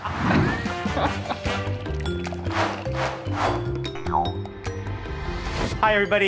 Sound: upbeat music; liquids bubbling

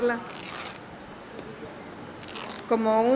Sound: speaking in Spanish

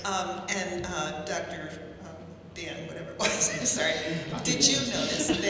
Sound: laughing

